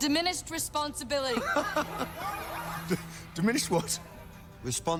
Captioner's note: laughs